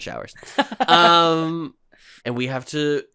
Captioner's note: giggles